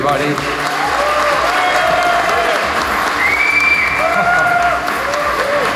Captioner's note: people clapping and cheering